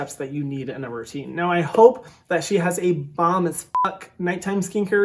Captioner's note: beep